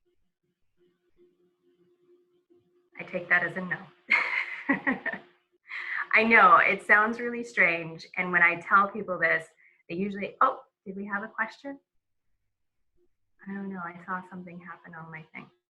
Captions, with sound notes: I take that as a no, (speaker laughs) I know it sounds really strange. And when I tell people this, they usually, Oh, did we have a question? I don't know. I saw something happen on my thing.